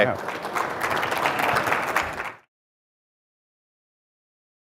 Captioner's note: audience applauding